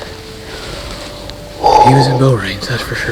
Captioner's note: large exhale